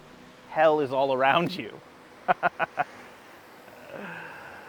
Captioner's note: laughs